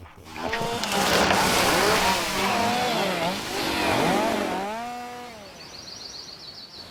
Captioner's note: chainsaw howls; birds chirping